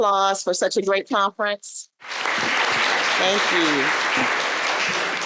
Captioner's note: applause